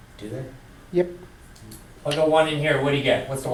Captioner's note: voiceover